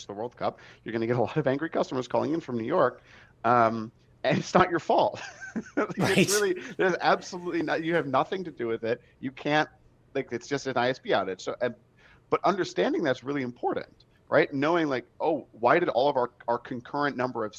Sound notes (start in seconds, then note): 6.0 all laughs